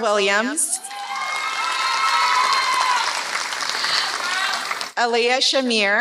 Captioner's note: applause